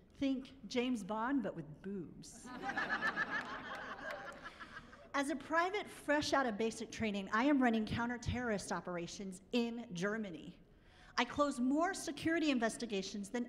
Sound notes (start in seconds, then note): 2.6 laughing